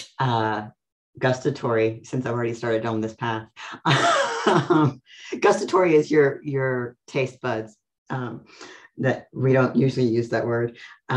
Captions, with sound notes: Gustatory, since I've already started on this path. (laughs) Gustatory is your taste buds, that we don't usually use that word.